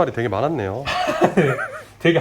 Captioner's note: laughs